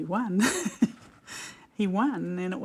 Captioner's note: laughs